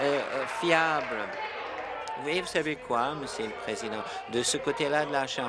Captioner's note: applause